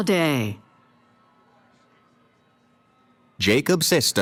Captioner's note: cheering